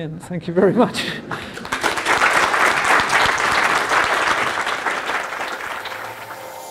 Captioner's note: applause